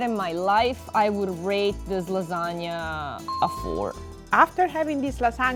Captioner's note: ding